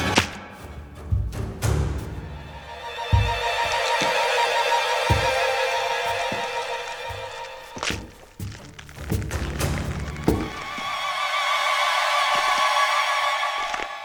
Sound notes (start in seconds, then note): 3.0 strange sounds of a moving body; 10.7 dramatic music